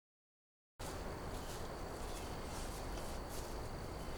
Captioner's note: birds chirping